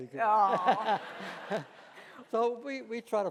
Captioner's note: laughing